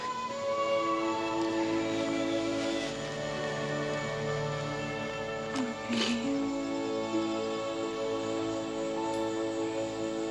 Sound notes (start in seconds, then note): 0.3 tender music; 2.6 bird squawks